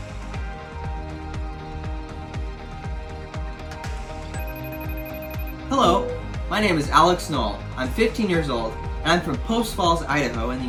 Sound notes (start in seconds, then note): 4.3 phone rings